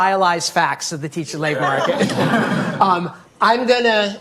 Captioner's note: audience laughing